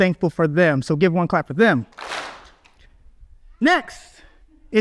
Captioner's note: audience claps